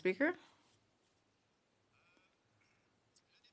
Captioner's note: speaking French